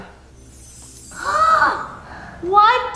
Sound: gasping

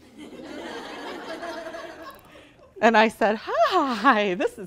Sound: laughing

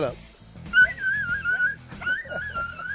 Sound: dog whining

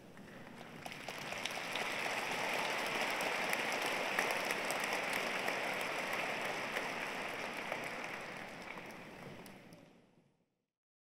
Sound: applause

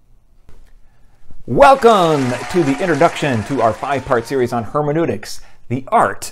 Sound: cheering

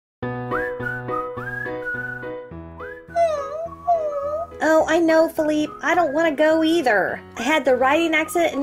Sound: dog whining

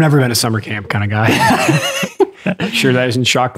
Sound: Father Innocent laughs

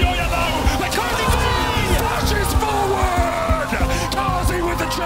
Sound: screams

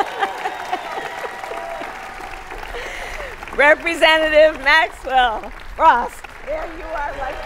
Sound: applause

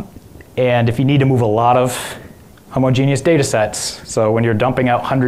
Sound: none

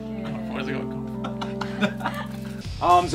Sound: Simon and Josh laughing

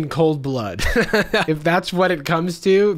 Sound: laughing

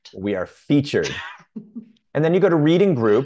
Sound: chuckling

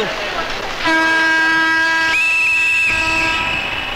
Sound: train horn blares

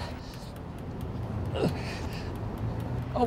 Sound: groaning

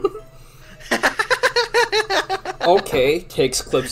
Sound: laughing

